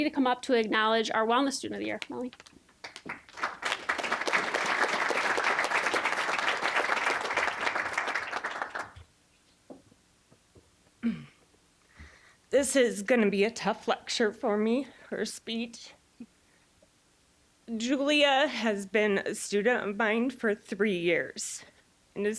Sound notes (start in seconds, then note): 2.8 applause; 12.6 voice wavering